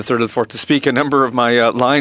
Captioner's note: speaking French